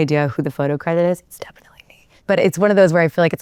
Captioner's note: whispering